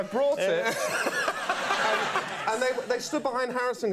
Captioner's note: audience and Conan laugh